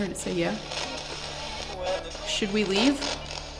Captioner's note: spirit box voice